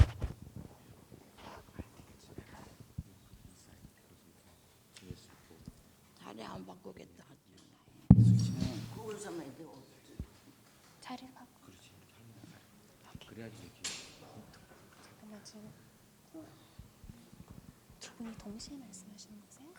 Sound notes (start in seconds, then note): 2.1 whispering; 6.7 speaking in foreign language